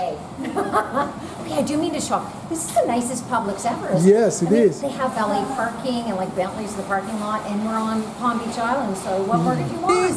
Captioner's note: laughs; with a mediterranean accent. off camera